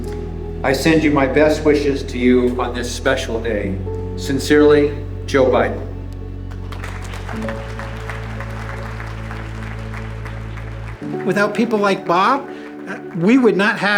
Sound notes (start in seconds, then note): 6.4 applause